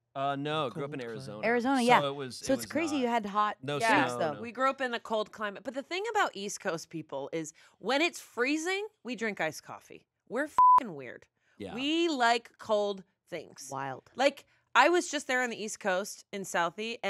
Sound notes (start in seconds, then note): 10.5 beep